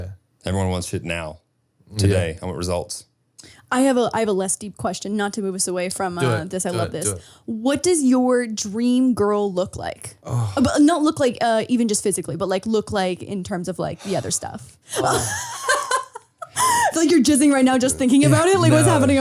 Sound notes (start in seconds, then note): 14.9 laughing